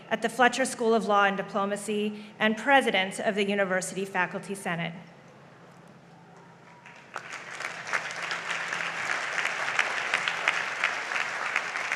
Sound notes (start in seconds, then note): 6.7 audience applauds